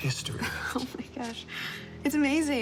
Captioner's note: laughs